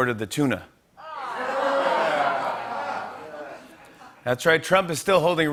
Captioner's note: laughter